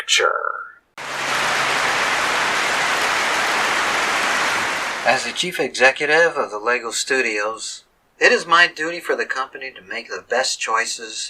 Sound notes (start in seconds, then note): 1.0 clapping